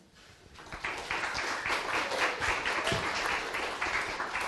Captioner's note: applause